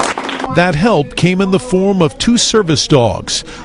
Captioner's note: applause